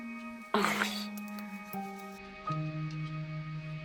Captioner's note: laughs; fun music